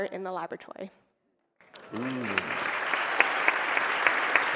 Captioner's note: applause